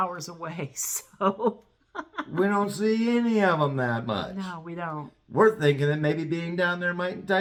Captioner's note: laugh